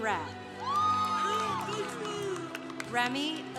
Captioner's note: congregation applauding